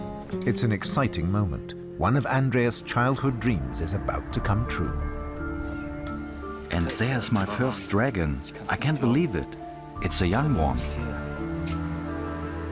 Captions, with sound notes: It's an exciting moment. One of Andreas' childhood dreams is about to come true. [in German] And there's my first dragon! I can't believe it. It's a young one.